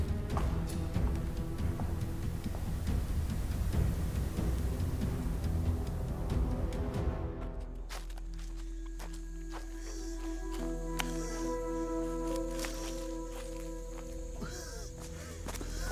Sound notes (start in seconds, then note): 3.7 dramatic music; 7.4 footsteps crunching